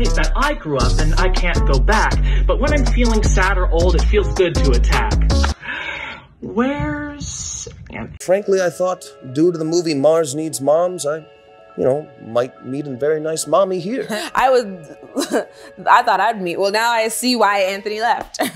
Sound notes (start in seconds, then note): 15.0 giggles